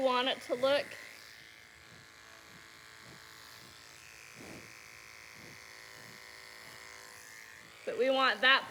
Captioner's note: clippers buzzing